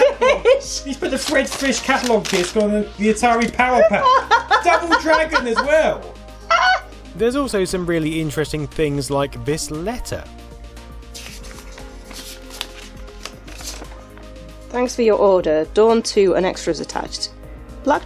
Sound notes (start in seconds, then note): 6.4 laughing; 11.1 unfolding sound